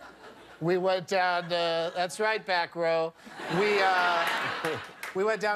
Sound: laughter

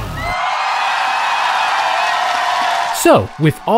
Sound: audience cheering

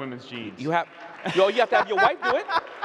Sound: laughing

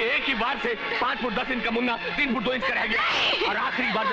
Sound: screams

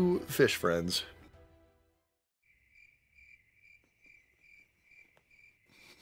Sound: uncomfortable silence

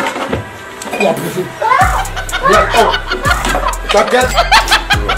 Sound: laughing

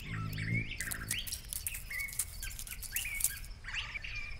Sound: crackling leaves

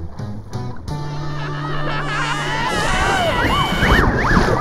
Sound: screaming

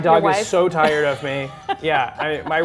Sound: laughs

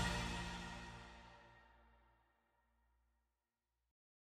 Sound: silence

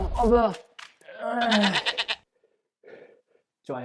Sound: argh

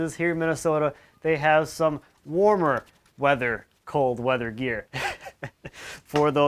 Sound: chuckles

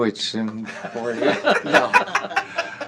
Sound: laughter

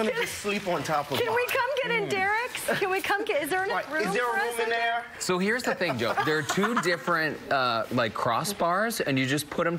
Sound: laughter

